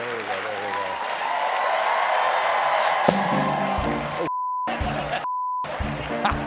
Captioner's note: cheers and applause